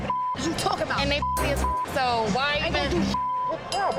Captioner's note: beep